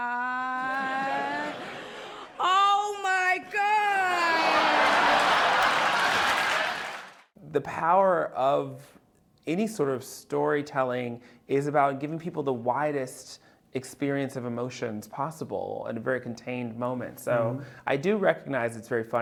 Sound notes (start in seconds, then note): 4.3 laughter